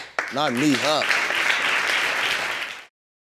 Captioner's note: audience claps